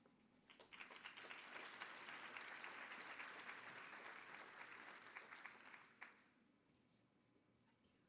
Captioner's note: applause